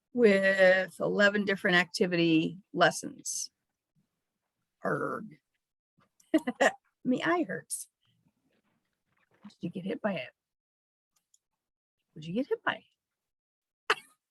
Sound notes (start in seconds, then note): 6.2 chuckles